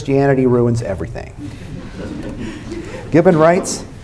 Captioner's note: laughter